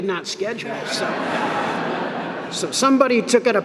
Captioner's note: laughter